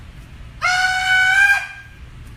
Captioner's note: enthusiastic shouting